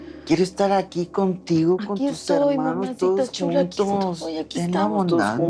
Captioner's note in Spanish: none